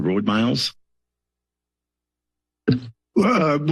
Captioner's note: silence